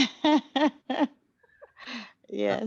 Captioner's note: laugh